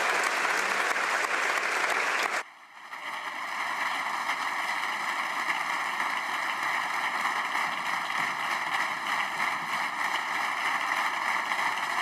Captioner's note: applause